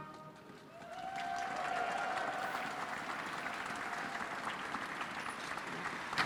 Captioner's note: audience cheers and applauds